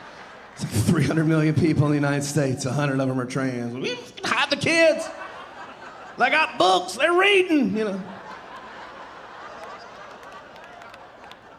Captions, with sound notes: It's like 300 million people in the United States, 100 of 'em are trans. "Ugh, hide the kids. (audience laughing) They got books, they're reading, you know." (audience laughing)